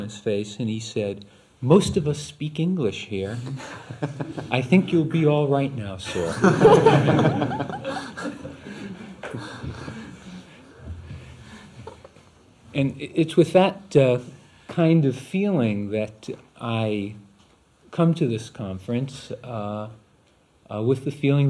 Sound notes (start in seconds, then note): 8.8 laughter